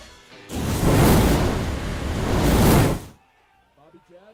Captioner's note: sizzling fire sound